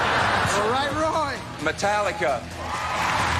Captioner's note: audience laughs